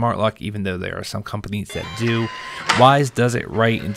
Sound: lock whirrs

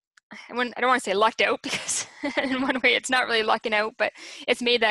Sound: chuckles

